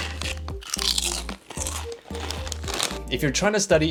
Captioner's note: chips crunching